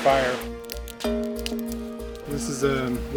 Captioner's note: fire crackling